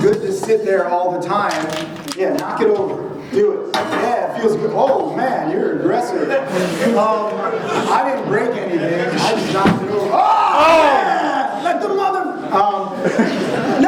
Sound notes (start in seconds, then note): 6.7 audience chuckling; 12.9 laughing